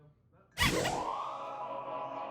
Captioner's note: squeak